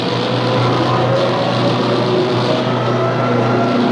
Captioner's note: engine screaming